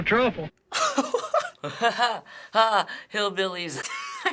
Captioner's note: disingenuous laughter; laughing; snickers